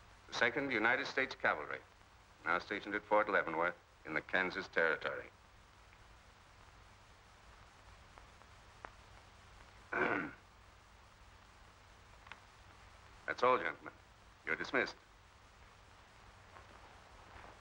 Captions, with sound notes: the Second United States Cavalry, now stationed at Fort Leavenworth in the Kansas territory. (clears throat) That's all, gentlemen. You're dismissed.